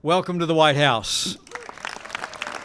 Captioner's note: applause